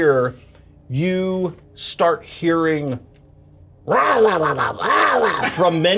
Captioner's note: grumbling